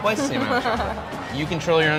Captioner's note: laughing